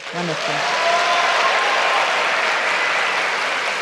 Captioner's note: applause